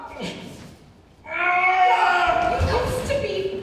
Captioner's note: Nicholl grunts